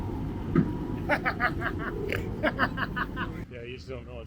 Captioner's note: laughs